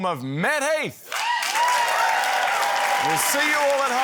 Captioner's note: cheering, applause